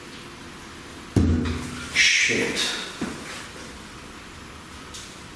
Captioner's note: knocking; loud banging